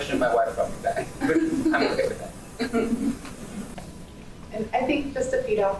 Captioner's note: laughing